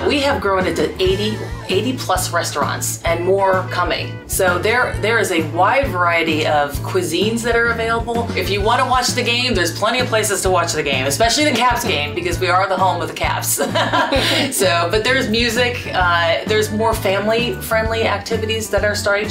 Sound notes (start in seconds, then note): 13.6 laughs